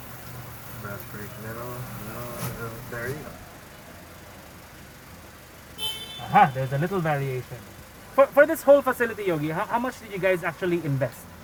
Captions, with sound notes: There you go... [car beeps] Aha! There's a little variation... For this whole facility, Yogi, how much did you guys actually invest?